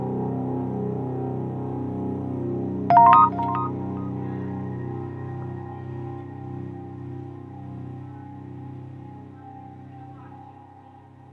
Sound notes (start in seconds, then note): 2.9 text sound; 4.0 dark music